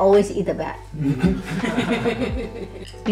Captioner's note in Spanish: Risas